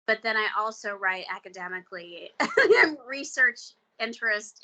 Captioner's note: chuckling